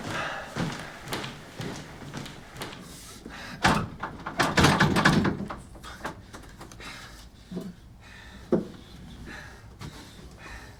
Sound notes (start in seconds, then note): 4.0 door rattling; 6.3 Matt heavy breathing